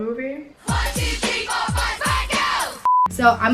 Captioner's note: beep